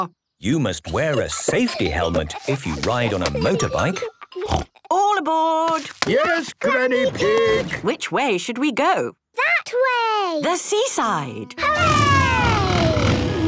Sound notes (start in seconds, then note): 4.4 snort